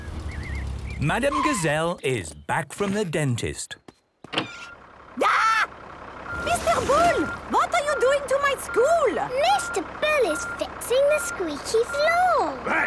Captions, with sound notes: Madam Gazelle is back from the dentist. - (tractor noise) - Arghhh! Mr. Bull! What are you doing to my school?! - Mr. Bull is fixing the squeaky floor!